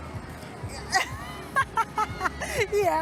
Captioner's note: laughs